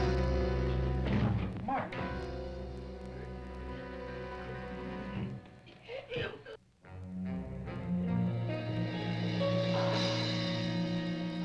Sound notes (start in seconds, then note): 5.1 Mark gasping; 7.0 dramatic music